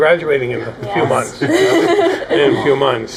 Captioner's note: laughing